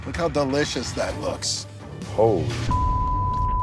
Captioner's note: beep